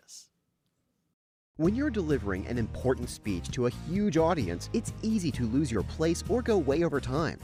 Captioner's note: voiceover